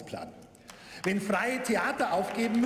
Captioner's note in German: Beifall